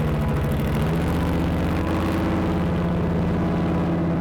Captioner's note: engine revs